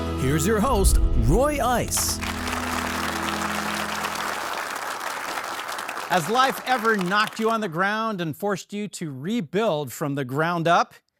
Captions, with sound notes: Here's your host, Roy Ice. (audience applauding) - Has life ever knocked you on the ground and forced you to rebuild from the ground up?